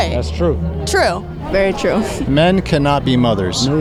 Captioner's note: laugh